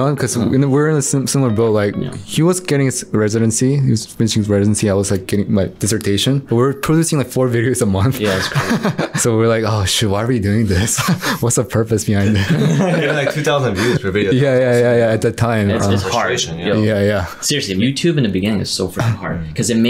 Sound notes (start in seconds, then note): 8.2 laughs; 12.2 all laughing; 12.2 laughs